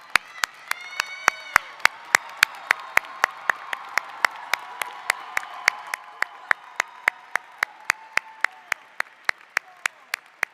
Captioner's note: applause